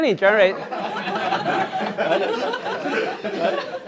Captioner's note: laughter